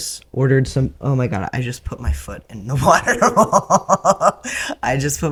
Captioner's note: laughter